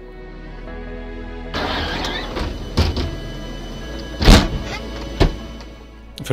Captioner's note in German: schliessende Türe